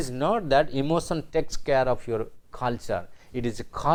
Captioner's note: German